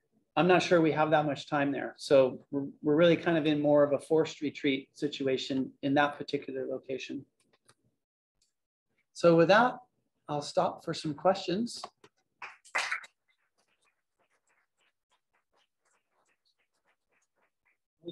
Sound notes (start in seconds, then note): 12.4 applause